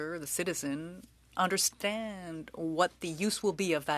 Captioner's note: speaking french